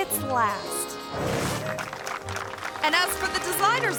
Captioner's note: screen whooshes; hands clapping